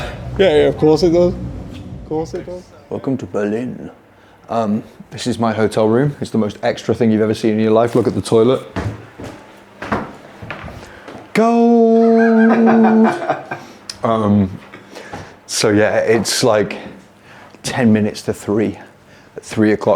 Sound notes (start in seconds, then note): 8.7 footsteps thudding